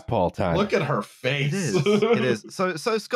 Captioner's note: laughs